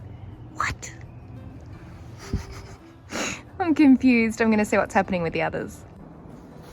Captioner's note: laughs